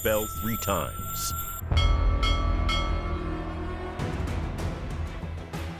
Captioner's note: chiming